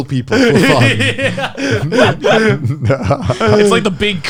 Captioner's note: laughing loudly